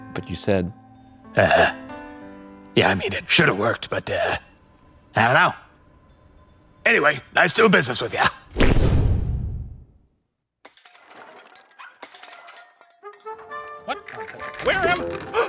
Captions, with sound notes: But you said... - Yeah, I mean, it should have worked, but I don't know. - Anyway, nice doing business with you. (Genie poofing) (background banging and rattling) - What? Where am I?